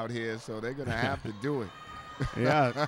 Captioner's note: laughs